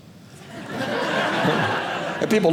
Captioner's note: audience laughing